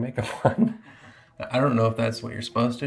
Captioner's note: laughs